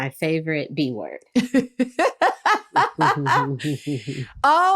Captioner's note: laughter